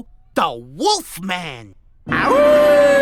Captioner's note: howls